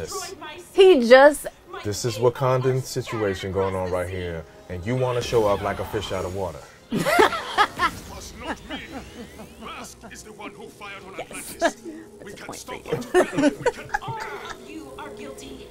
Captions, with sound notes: -He just-- -This is Wakandan situation going on right here. And you want to show up like a fish out of water. [laughing] Yes! That's a point for you. [both laughing]